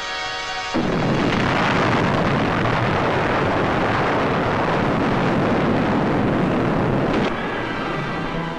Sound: music, explosions

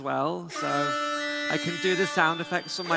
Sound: siren

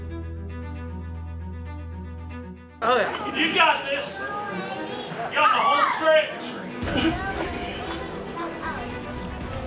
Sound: crowd

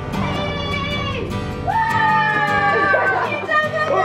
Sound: happy music; children cheering

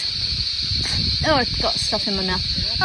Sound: makes mouth spitty noise

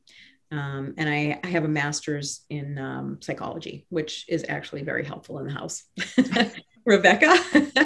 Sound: laughing

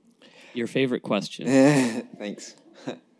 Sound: laughs

